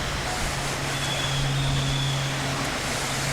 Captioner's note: bird Noises